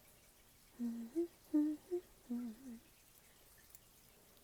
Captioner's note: humming